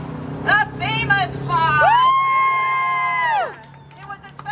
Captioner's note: cheering